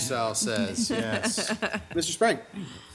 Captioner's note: laughing